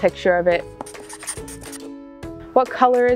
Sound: marker scratching on paper sounds

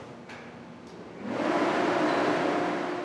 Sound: loud fan turning on

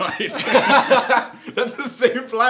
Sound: laughing

